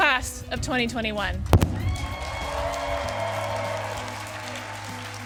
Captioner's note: applause